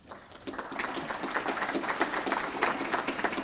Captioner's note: applause